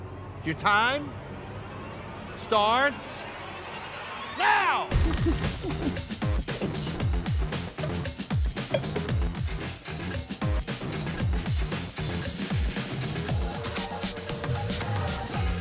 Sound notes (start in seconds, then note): 4.8 lively upbeat music; 4.9 timer rings; 10.6 upbeat music continued